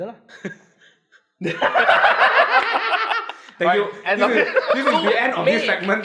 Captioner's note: laughs